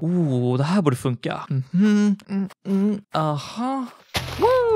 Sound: climbing noises

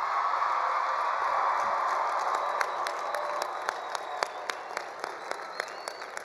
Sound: attendees cheering; attendees applauding

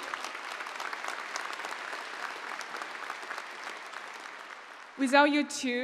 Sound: applause

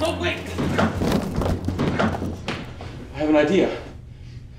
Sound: body clatters

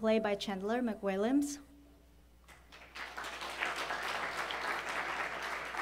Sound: applause

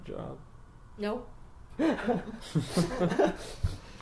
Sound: all laugh

